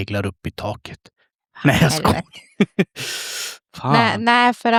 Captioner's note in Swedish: skratt